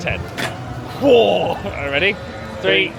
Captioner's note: growls playfully